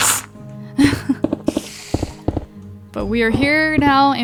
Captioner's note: laughs